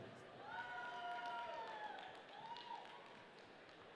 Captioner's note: audience cheering